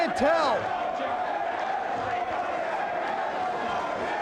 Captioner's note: audience cheers